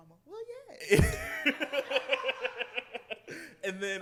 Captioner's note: laughter